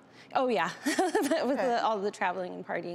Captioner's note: laughs